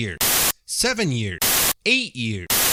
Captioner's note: static